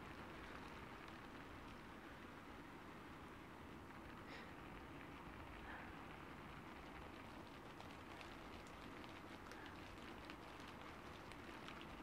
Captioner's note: light breathing against the rain till the end